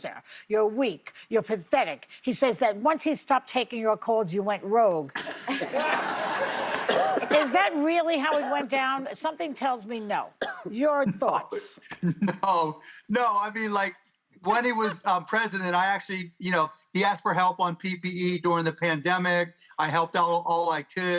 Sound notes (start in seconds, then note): 11.9 laughter